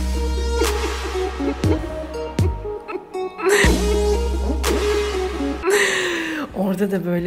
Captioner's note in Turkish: gülüyor